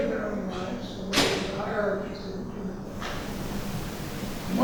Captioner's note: banging drowns out speaker